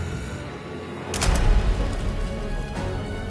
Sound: shutter sounds

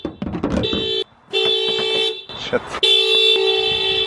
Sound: car alarm goes off

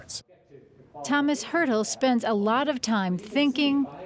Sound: voiceover

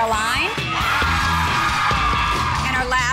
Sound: girls cheering

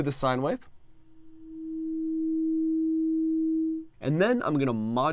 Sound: sine wave

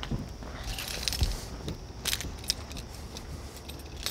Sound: keys jangling

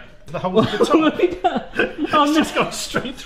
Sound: both laugh

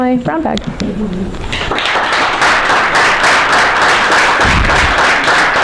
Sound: applause

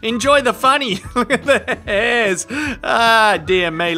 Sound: laughing

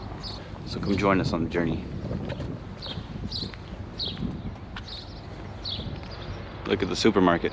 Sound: birds tweeting in background

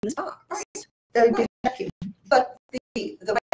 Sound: audio distorts

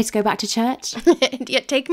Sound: laughing

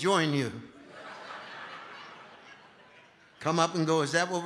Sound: congregation laughing

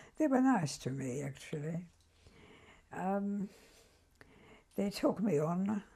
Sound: pauses for 3 seconds

